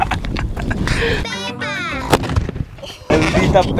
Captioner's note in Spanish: risas; sonidos de cerdo